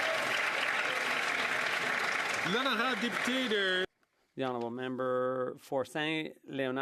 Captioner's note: some Applause